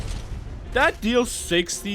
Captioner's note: explosion sound